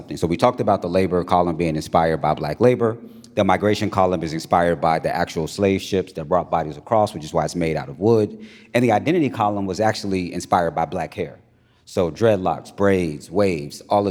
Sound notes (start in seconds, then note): none